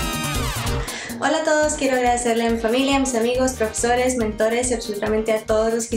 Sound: speaks in foreign language

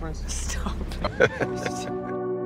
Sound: laughs

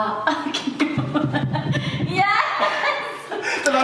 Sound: laughing

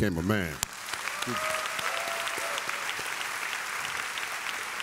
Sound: audience applauds

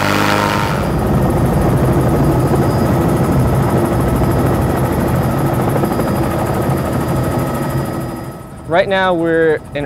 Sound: loud airboat noise; helicopter noise

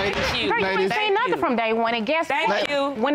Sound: gavel banging

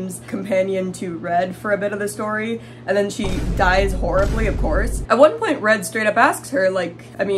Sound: boom

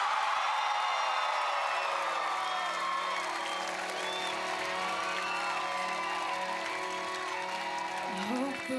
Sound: cheers and applause

